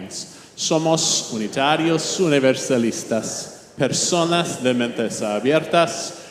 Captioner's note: speaking in foreign language